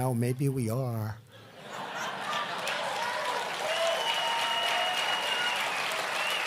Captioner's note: laughter; laughter and applause